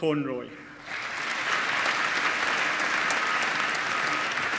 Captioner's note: applause